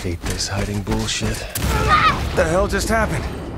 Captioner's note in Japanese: 爆発